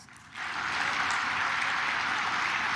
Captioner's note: claps